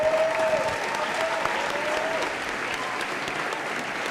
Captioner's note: applause